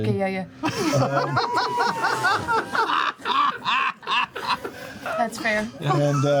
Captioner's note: laughter